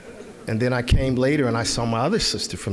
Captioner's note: audience laughing